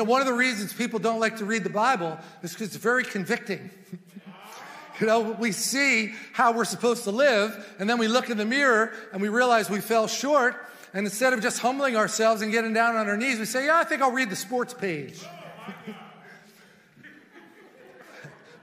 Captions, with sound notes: - And, you know, one of the reasons people don't like to read the Bible, is cause it's very convicting (chuckles). (congregation murmurs) We see how we're supposed to live, and then we look in the mirror and we realized we fell short. And instead of just humbling ourselves and getting down on our knees we say, "yeah, I think I'll read the sports page." (congregation murmurs)